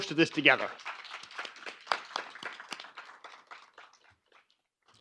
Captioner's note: crowd applause